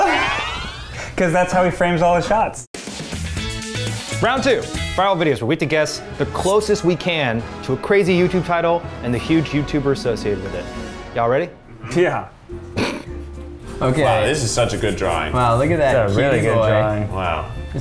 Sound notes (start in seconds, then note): 3.1 upbeat music; 12.7 laughs